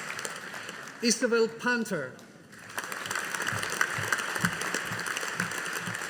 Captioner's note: audience applauding